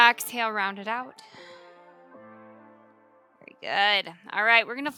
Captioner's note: exhaling